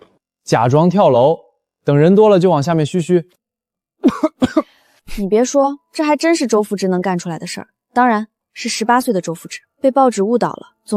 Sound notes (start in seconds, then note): 4.0 cough cough